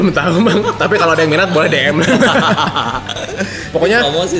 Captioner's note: laugh